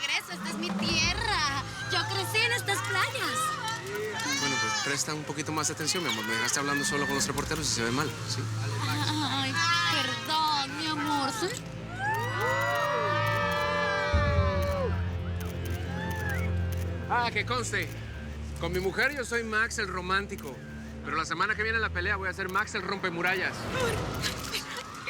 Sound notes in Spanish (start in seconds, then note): 11.9 Gritos y exclamaciones